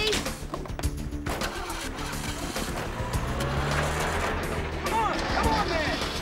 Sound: car doors slamming; engine starts

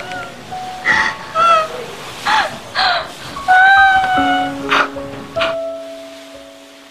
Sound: crying

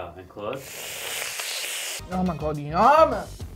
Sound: drink slurping

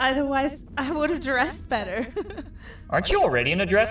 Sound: chuckles

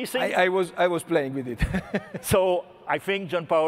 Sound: laughs

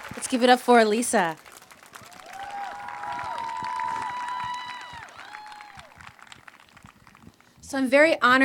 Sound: applause

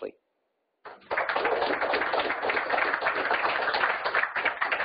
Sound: audience applauding

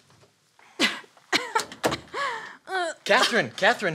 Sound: coughing

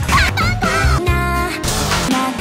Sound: rev engine

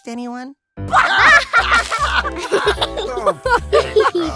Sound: all laughing

